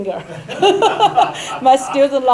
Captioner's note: laughing